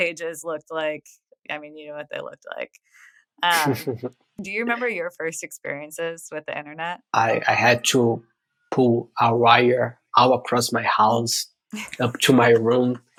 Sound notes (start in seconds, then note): 3.5 <Laugh>; 11.9 <Laugh>